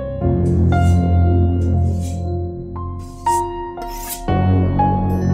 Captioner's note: knife sharpening noises